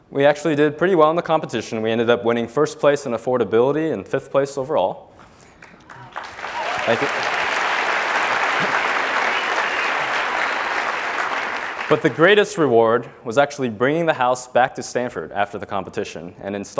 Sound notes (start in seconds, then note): 5.5 applause